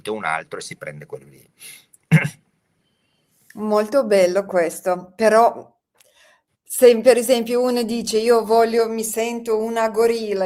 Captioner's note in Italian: schiarire la voce